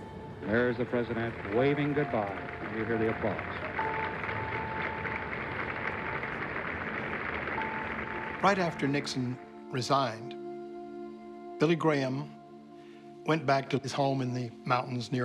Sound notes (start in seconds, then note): 4.8 applause